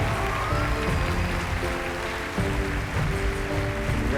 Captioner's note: applause